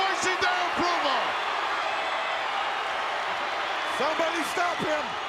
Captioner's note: crowd cheering